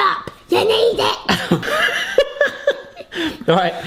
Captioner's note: all laughing